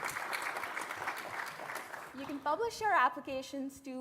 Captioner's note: applause